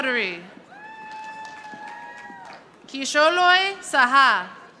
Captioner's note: audience applauding